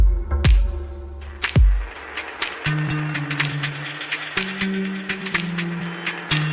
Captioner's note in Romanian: Aplauze